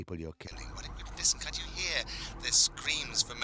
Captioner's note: sirens wailing